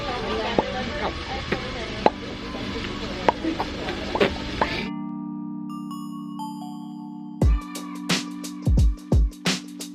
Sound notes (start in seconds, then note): 0.5 both making popping noises; 4.8 upbeat music